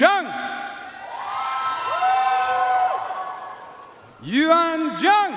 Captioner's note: audience cheering and applauding